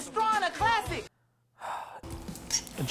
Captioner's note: sigh